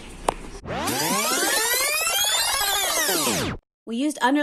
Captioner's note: tape rewinding